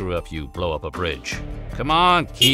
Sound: car honking

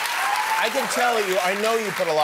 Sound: cheers and applause

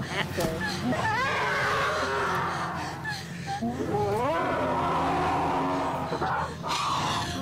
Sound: an even worse scream- it's a diff one

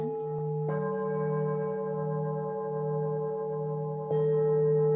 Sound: bowl dings; bowls continue to sing

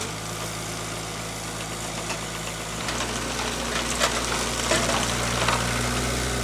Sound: telehandler engine revving

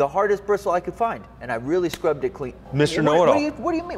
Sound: slapping his head

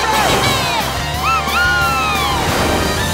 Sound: meowing

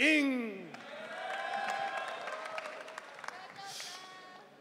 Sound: audience cheering

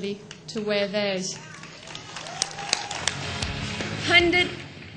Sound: crowd claps and cheers

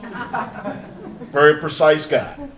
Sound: audience laughter

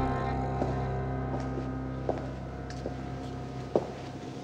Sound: heels clack

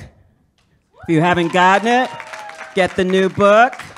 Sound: audience hollers

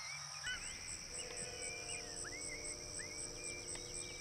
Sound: birds chirping

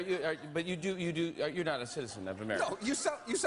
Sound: jimmy, stuttering

